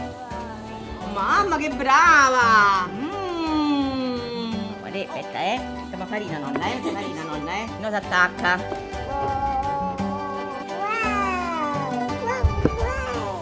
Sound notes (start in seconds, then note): 1.2 speaking Italian; 6.2 speaking Italian